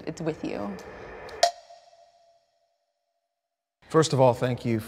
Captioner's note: bell dings